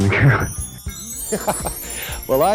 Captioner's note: chuckles